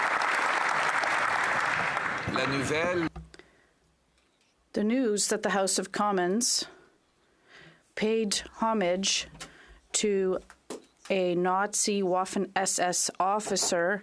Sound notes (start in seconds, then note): 4.1 some Applause